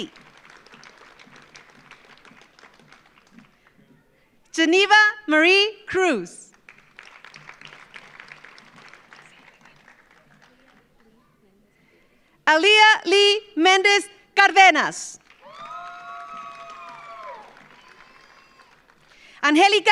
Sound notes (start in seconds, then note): 0.0 audience applauds; 6.5 audience applauds; 15.2 audience applauds; 15.3 audience cheers